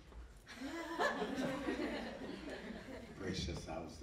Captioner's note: audience laughing